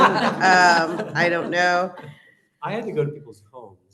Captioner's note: laughter